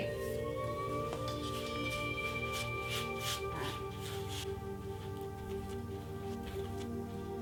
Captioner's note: soft brushing